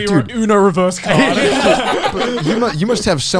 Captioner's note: all laughing